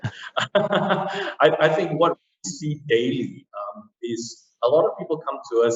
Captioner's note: laughs